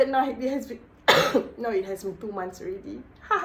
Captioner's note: cough